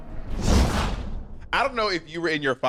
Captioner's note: whoosh